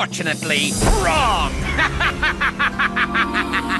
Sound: laughing maniacally

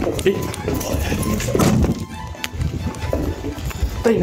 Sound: running, loud thud

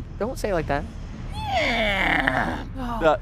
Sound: door creaking

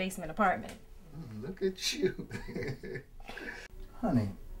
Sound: laughs

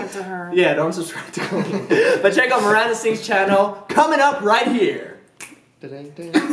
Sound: snaps fingers

